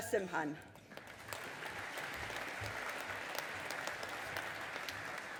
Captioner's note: audience applauding